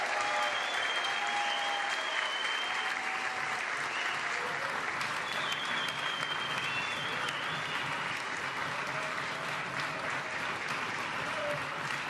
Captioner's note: applause